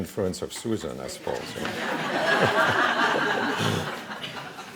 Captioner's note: laughing